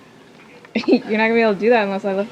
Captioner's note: laughs